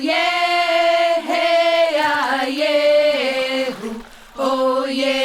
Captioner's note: singing throughout; sounds of waves hitting the beach